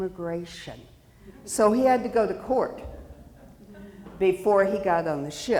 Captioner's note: audience chuckling